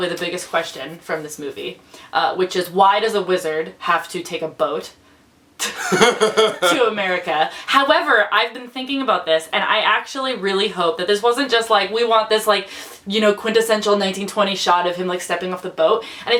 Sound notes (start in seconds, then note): 5.7 laughs